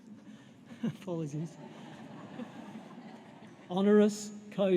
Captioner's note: laughter